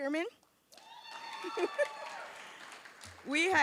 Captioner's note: applause